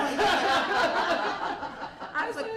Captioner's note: laughter